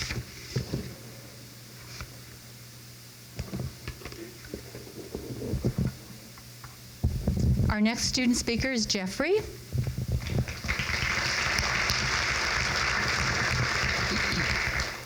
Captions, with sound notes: Our next student speaker is Jeffrey. (crowd claps)